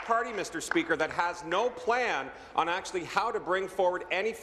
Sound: applause

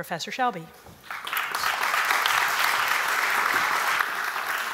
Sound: applause

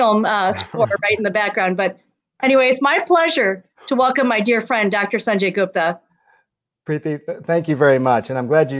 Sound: laughter

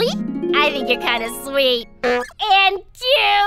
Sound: giggles

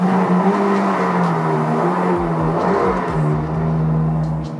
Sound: engine rumbling

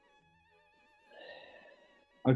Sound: sighs

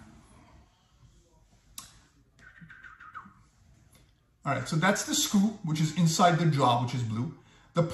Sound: whistling

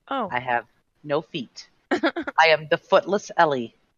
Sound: laughing

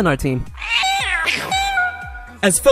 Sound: cosmic meowing

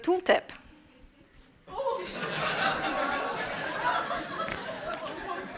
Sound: laughter

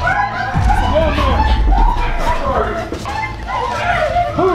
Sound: all crying out

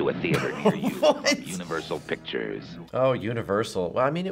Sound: laughs; voice-over

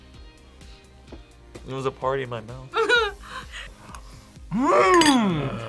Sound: laughs

